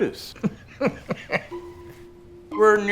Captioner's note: Dr. Ballast laughs